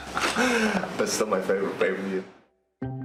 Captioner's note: laughter